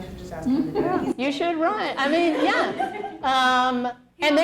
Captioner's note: laughter